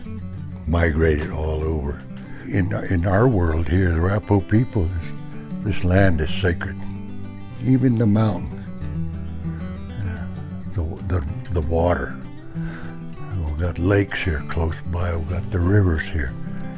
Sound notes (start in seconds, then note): 9.3 speaks foreign language